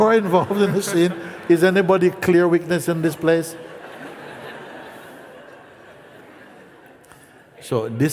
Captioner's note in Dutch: gelach